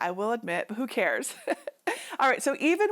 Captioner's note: chuckling